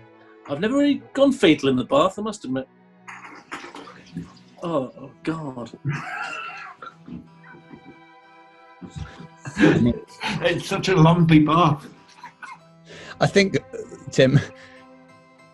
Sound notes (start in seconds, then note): 5.6 sniggering